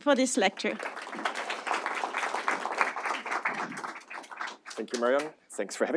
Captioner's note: audience applauding